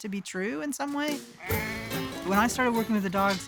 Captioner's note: sheep bleating